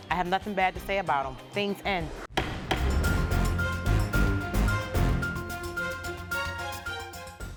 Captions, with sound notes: - I have nothing bad to say about him. Things end. (gavel bangs) (dramatic music)